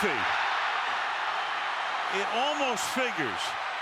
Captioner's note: cheers, applause